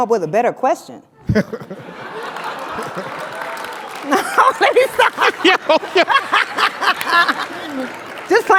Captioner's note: laugh; applause